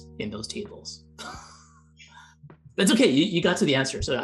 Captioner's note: laughs